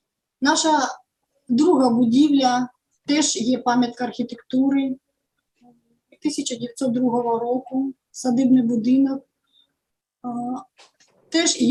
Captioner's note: foreign Language